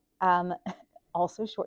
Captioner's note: laughs